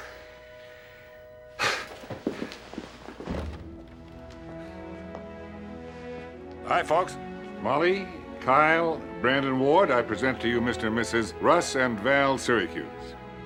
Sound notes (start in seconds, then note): 1.5 sighs